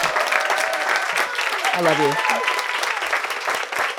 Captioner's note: audience applauding